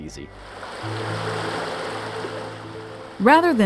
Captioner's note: water rushing